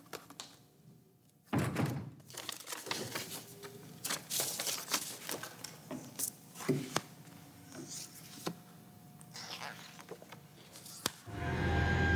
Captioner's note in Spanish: sonido al cerrar la puerta